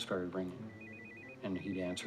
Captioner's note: ringing